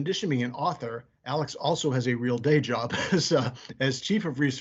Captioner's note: laughing